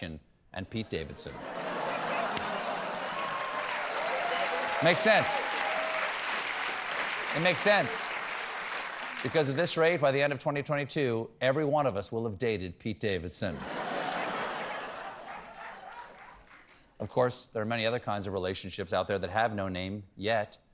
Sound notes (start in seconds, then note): 4.2 cheers and applause; 4.2 laughter; 13.5 laughter